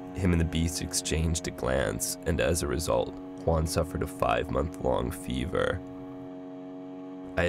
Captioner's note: none